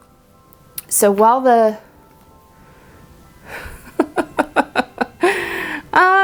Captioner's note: laughing